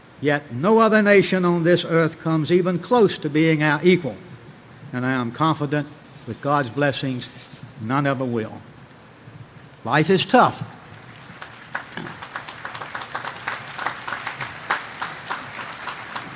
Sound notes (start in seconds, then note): 10.9 audience applauding